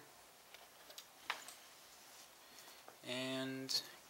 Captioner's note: static